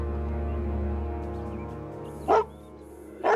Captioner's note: dog barking